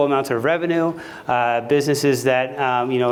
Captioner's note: none